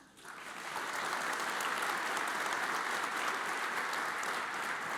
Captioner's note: audience applauds